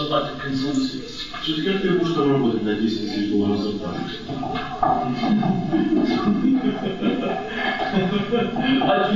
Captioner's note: laughts together